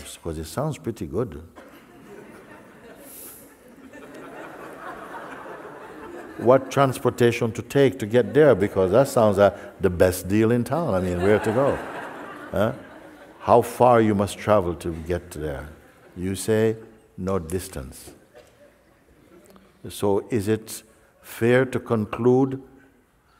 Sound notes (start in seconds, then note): 3.9 Lachen